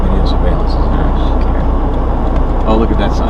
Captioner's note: faintly speaking